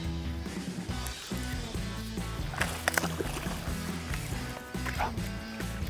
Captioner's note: splashing